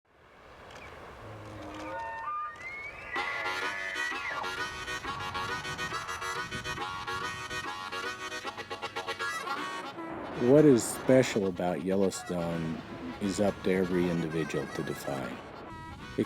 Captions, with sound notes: [elk noise] [harmonica] What is special about Yellowstone is up to every individual to define.